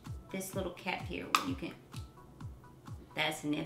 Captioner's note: lid popping